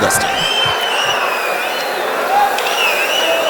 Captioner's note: wild applause and cheering for 22 seconds